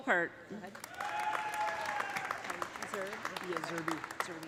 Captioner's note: audience applauding; audience cheering